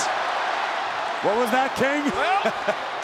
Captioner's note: audience cheers; chuckles